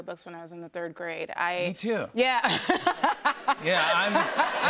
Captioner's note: laughter